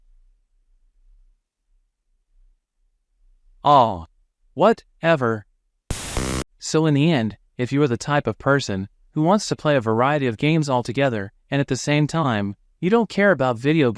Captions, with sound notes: Ah! Whatever...!!! [Beep.] So in the end, if you are the type of person, who wants to play a variety of games altogether, and at the same time, you don't care about video